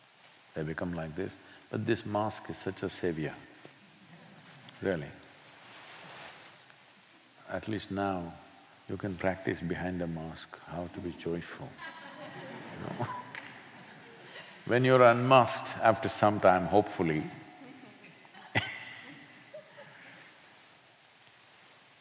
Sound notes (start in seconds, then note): 11.7 laughter; 20.2 laughs